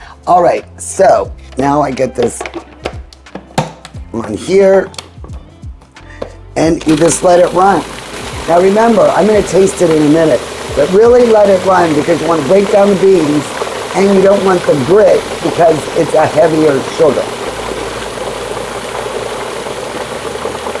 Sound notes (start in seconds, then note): 2.5 appliance shuffling; 3.3 appliance cover clicking; 5.8 appliance shuffling; 7.1 appliance buzzing